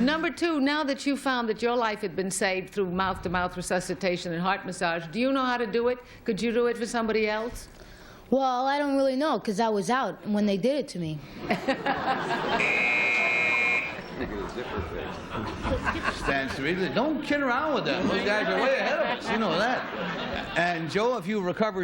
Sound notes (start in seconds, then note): 12.6 buzz